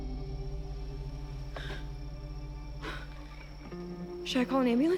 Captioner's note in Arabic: بيكي غاسبس